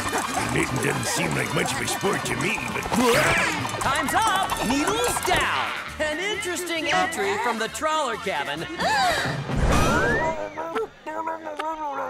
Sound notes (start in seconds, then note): 8.8 gasping